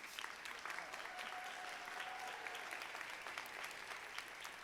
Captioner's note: audience applauding